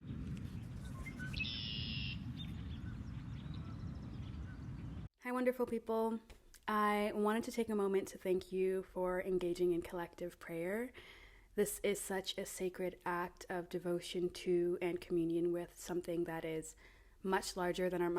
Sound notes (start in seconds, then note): 0.1 bird song